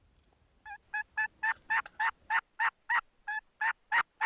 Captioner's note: turkey calling